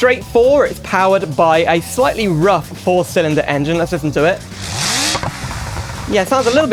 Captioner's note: engine Revs